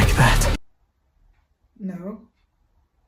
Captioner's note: uncomfortable silence